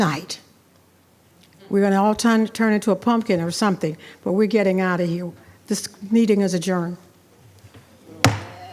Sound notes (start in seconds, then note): 7.3 speaking faintly; 8.2 gavel bangs